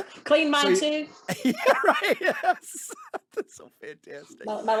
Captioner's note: laughing